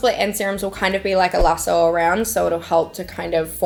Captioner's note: lasso swooshes